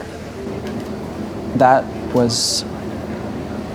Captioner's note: sighs